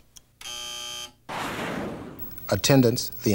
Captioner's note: buzzer